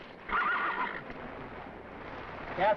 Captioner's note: horses whinnying